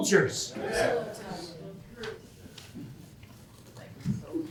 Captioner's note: audience cheering